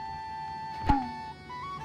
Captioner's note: bonk